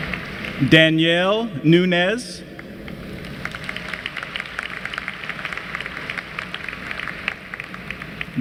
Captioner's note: applause